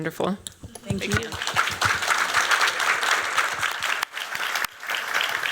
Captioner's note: applause